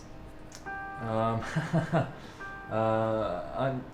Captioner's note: laughing